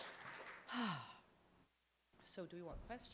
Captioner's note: sighs